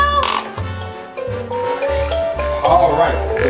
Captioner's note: obscure beeps